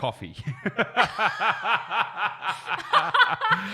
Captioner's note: all laughing